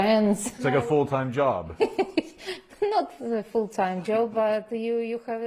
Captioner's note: laughter